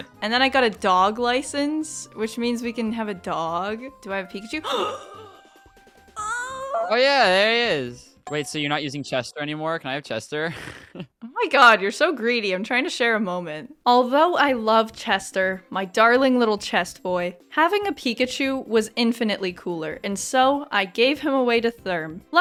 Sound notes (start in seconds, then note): 4.7 gasp